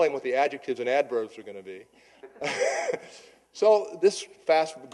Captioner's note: chuckling